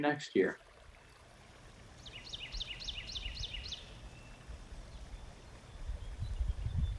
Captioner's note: water bubbling; birds chirping